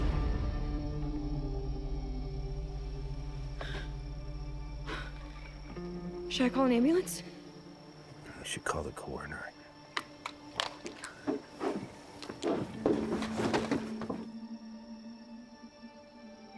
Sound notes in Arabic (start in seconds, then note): 3.1 بيكي غاسبس